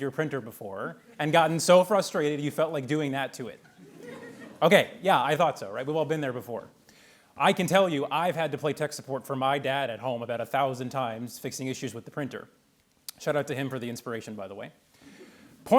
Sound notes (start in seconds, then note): 3.6 attendees laughing